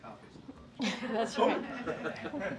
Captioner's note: laughter